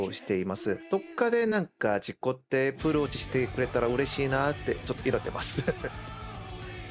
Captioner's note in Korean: 웃음